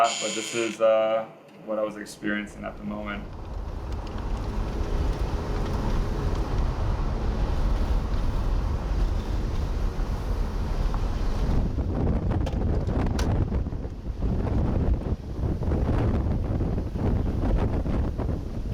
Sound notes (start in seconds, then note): 3.3 wind blowing